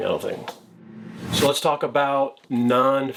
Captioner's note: logo whooshing